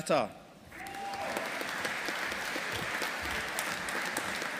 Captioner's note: audience applauding